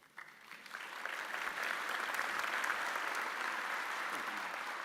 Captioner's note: audience applauding